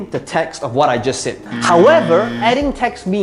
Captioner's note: buzzer blaring